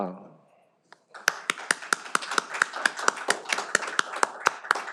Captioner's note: all applaud